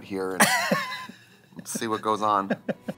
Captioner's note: Katya laughs